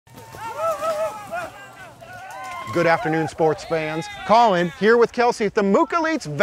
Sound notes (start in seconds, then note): 0.1 people cheering